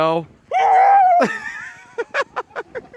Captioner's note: loudly yelling; laughing